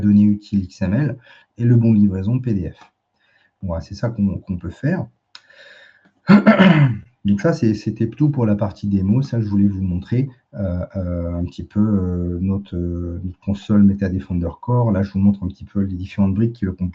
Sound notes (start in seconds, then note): 6.2 raclement de gorge